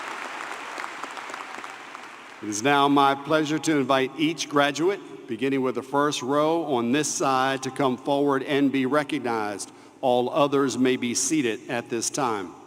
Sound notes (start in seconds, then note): 2.9 cheers and applause